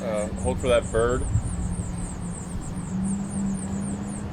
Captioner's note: Pájaros piando